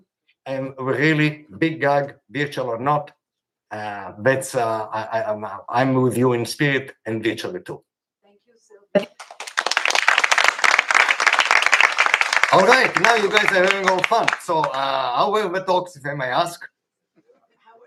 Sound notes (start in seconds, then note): 9.0 applause